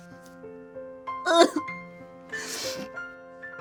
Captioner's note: crying; piano music